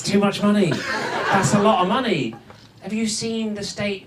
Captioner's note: audience laughs